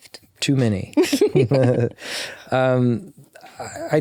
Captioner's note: both chuckling